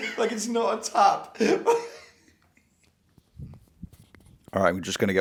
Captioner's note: laughing